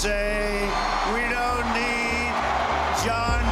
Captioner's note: crowd cheering